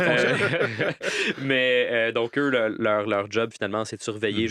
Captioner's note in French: rires